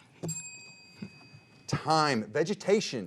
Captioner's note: bell dinging